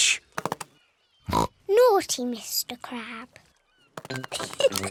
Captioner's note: oinks; giggles